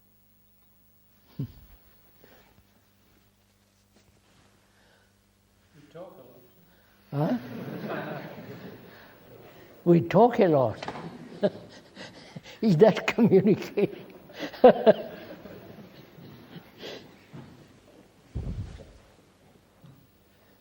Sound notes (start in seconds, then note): 7.2 laughter; 10.8 laughs